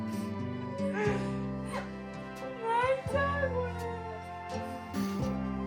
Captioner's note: laughs